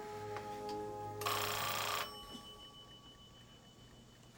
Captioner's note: phone ringing